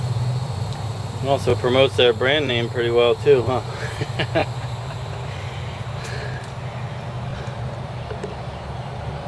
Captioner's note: chuckling heard